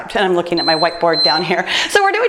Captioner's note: timer beeps